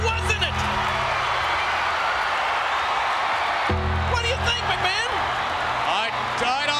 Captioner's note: applause